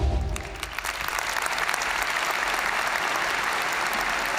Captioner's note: audience cheering and applauding